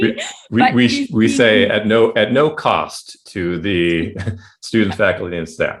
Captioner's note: chuckling